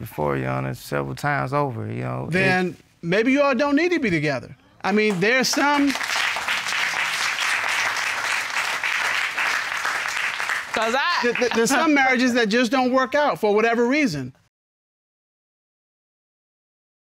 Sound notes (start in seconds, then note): 4.8 audience applauding